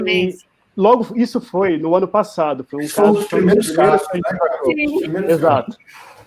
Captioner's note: multiple voices